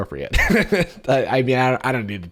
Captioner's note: laughs